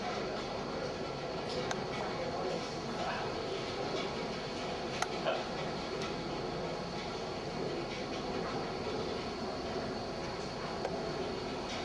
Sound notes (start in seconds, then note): 4.5 murmuring